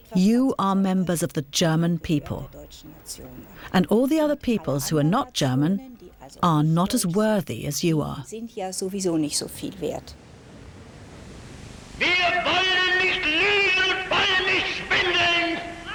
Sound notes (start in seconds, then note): 12.1 hitler speaking german